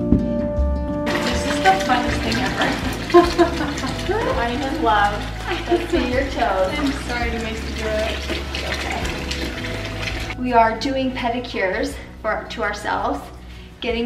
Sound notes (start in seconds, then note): 2.4 laughing